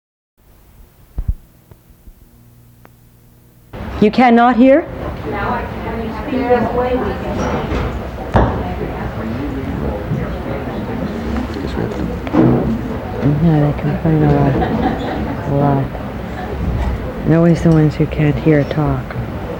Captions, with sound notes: - You cannot hear? (people mumbling) - I guess we have to... (people mumbling) - Always someone who can't hear our talk.